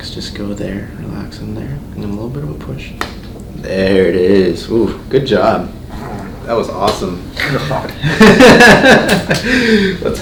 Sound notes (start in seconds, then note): 3.4 neck cracks; 7.4 laughing